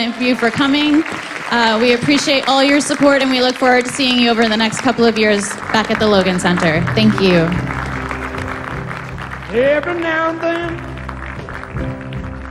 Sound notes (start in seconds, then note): 0.9 applause